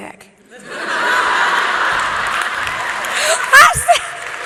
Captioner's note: audience laughing